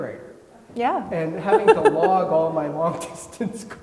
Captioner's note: laughs